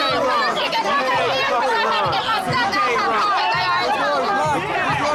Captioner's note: shouting